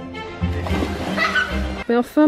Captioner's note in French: rires